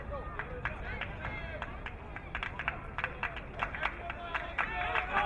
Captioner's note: crowd clapping